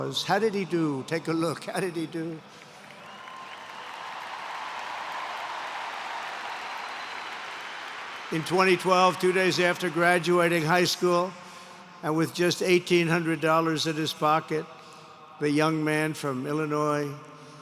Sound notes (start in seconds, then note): 2.2 applause